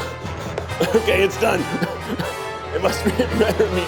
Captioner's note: laughing